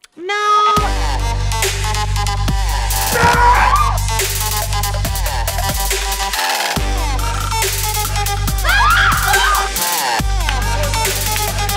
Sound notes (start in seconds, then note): 1.2 upbeat techno music; 3.1 screaming; 8.6 screaming